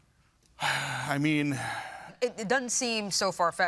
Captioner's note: sighs